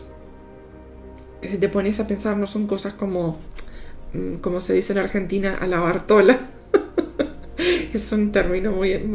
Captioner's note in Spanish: risas